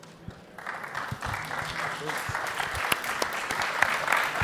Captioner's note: applause